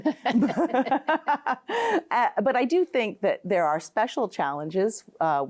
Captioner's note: both laughing